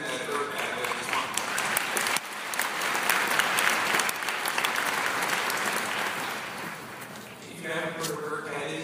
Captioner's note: applause